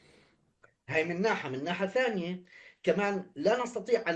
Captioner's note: speaking arabic